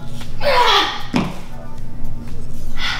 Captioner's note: grunts